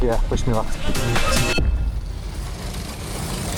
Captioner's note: car engine revving